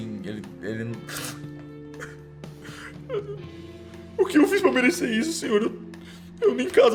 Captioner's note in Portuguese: soluço